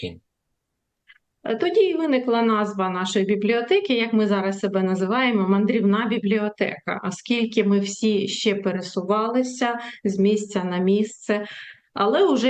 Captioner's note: foreign language